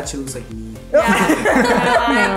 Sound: everyone laughs

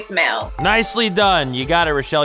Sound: ding

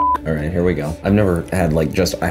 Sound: beep

